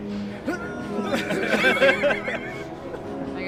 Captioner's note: grunting